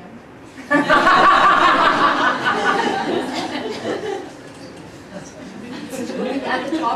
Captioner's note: laughter